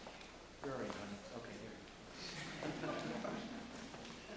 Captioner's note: audience chuckling